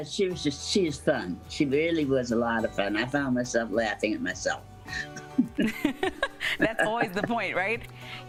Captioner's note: laughter